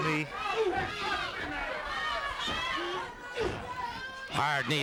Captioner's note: crowd yelling